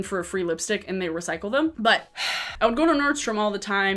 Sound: sighing

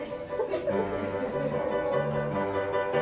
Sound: laughter

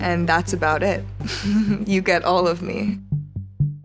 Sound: laughing; rhythmic music

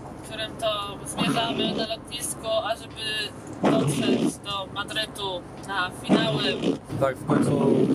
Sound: farting wiper

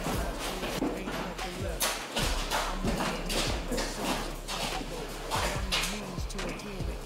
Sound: steps shuffling

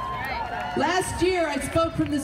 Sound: audience cheering

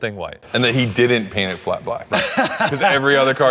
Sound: Ken laughing

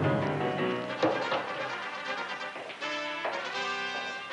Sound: clattering

